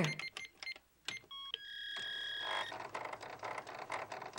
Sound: beeping; dial Tone

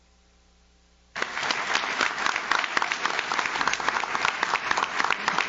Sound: audience claps

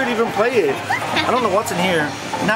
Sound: laughs

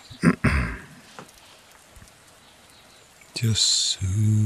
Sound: clears throat

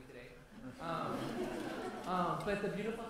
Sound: laughter

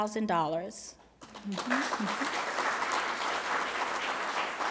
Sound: applause

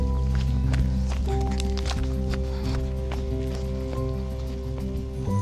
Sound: ' footsteps crunching on the drive

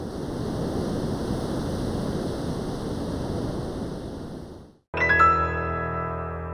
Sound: surf roaring

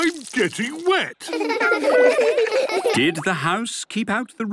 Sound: laughter

